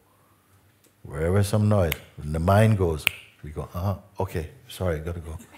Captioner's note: klick; mit den Fingern schnippst